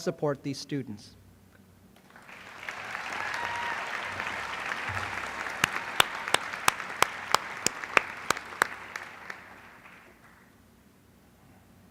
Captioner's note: applause